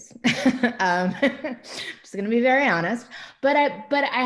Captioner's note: laughs